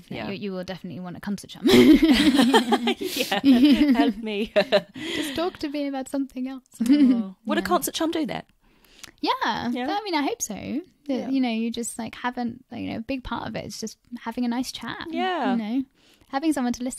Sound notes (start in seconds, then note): 4.7 laughs